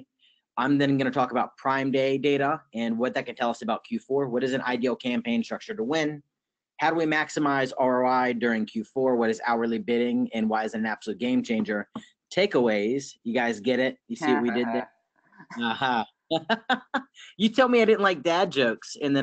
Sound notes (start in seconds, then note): 16.3 laughs